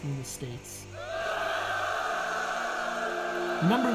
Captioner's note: cheering